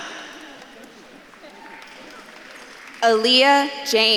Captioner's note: audience claps and cheers